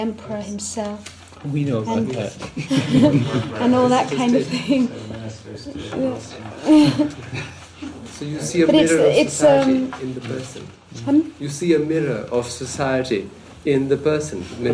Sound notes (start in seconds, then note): 6.4 laughs